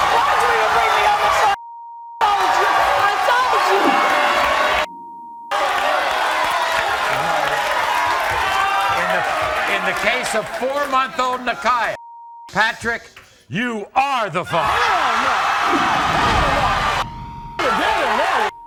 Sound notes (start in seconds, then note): 0.0 audience roars; 1.9 beep; 14.5 audience roars